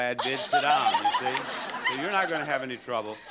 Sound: audience laughing

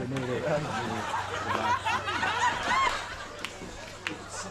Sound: chuckles

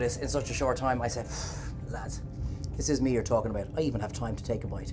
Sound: sighs

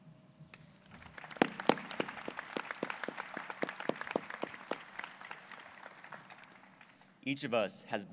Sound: applause

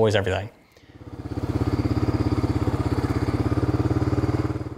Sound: engine roaring

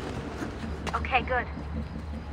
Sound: Lucy through radio

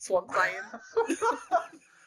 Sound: very manly laugh

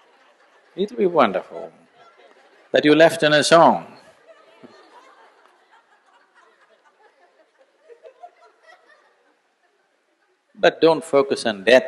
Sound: laughter; laughter

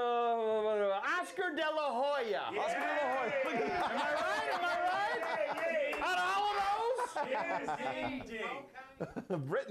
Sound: audience cheers

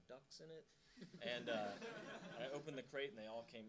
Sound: audience laughing

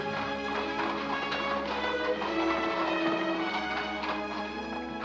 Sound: horse hooves clomping

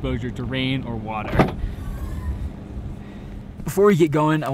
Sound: car boot opening

